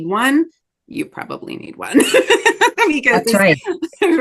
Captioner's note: laughs